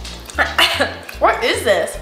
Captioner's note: coughs